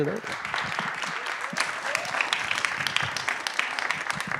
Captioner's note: applause